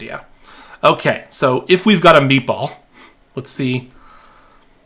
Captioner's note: chuckling